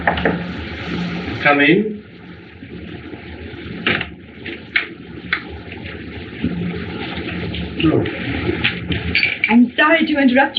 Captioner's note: knocking